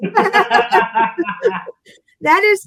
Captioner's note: laughter